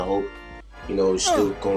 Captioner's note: man grunts